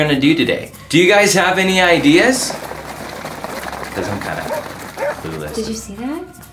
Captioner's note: rumbling in the background